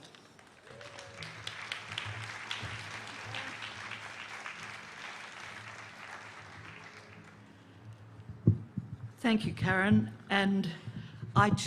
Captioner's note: applause